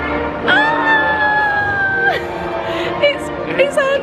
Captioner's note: squeals excitedly